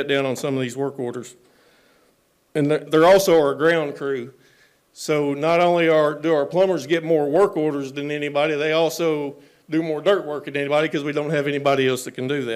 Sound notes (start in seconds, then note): none